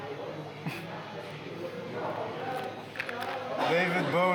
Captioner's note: Vladimir scoffs